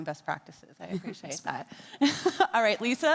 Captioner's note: laughs; faintly speaks